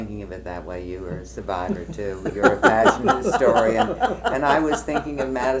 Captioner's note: laughter